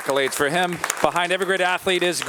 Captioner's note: audience applauding